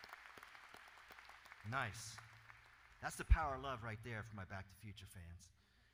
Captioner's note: applause